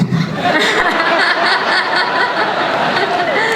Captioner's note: crowd laughs